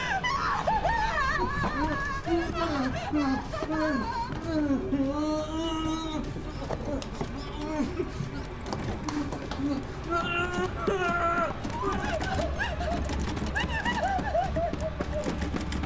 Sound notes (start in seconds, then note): 0.0 Sara screaming; 3.1 Donovan groaning; 10.1 banging on door; 11.6 Sara screaming; 12.9 door rattling